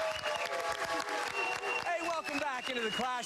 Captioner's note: cheers and applause